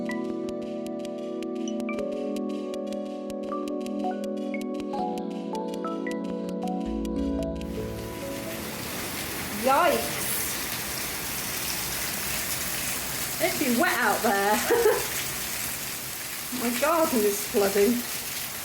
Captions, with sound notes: [loud rain] Yikes! It be wet out there. [laughing] My garden's flooding.